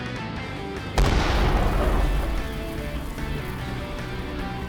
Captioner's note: missile explodes